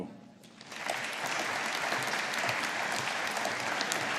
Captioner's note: audience applauding